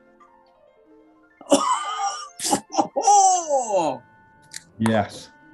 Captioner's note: chortling, can opening